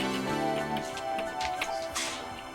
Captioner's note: gentle music; footsteps thudding; gentle music